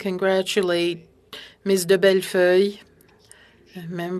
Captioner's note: speaking French